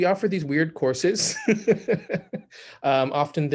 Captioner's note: laughs